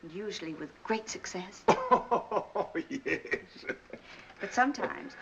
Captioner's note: laughs